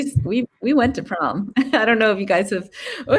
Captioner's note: laughing